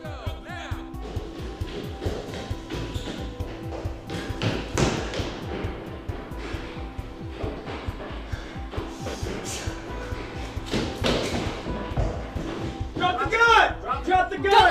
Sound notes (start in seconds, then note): 1.5 footsteps stomping; 8.4 Holsten gasping